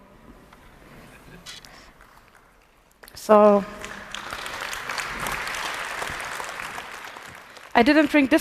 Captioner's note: applause